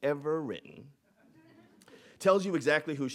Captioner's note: audience laughing